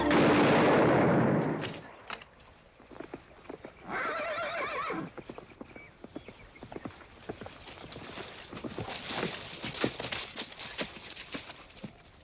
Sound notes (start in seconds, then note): 0.0 gunshot; 3.9 horse neighing; 4.8 hooves trotting